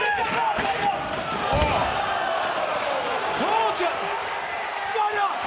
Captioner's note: audience cheering